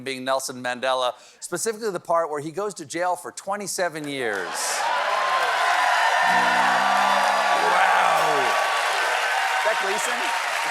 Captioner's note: cheers and applause